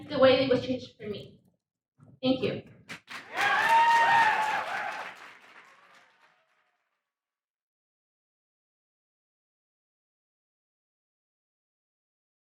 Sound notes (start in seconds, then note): 2.9 audience applauds; 2.9 audience cheers